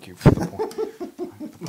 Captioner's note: laugh